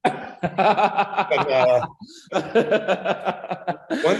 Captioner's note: everybody laughing